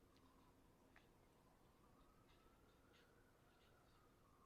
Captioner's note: sirens wailing